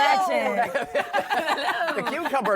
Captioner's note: laughter